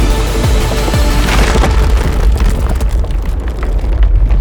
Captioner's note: explosive eruption